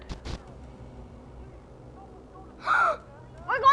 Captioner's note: gasping